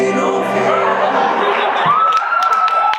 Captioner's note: audience laughs; audience cheers